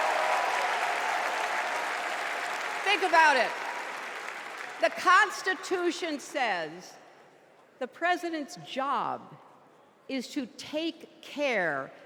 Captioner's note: cheers and applause